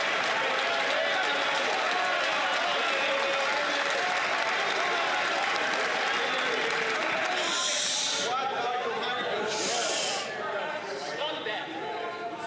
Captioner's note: some Applause